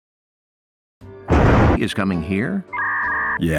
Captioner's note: convenient thunder